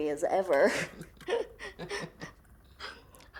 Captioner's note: both chuckling